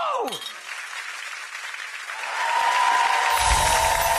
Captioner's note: audience applauding